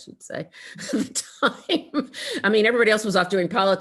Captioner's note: laughing